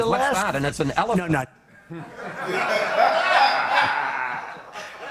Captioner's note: laughter